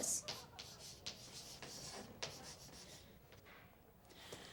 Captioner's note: chalk clicking